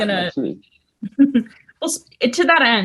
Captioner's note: laughs